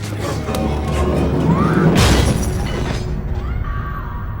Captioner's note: door clattering; door slamming; boy screaming